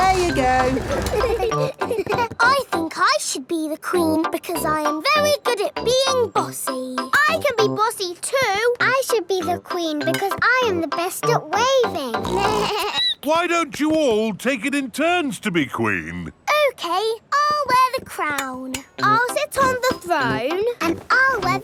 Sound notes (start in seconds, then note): 12.2 snorts; 12.2 bleats